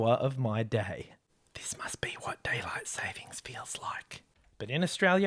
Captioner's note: whispers